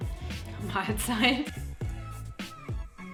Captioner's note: laughs